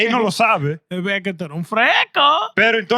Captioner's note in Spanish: Hablando en idioma extranjero